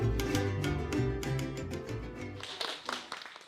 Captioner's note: classical music is playing; children are clapping